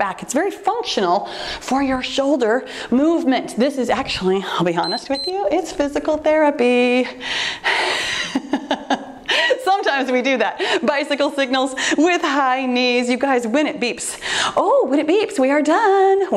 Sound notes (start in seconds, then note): 4.8 timer beeps; 7.0 laughs